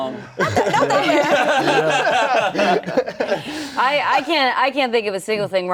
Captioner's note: everyone laughing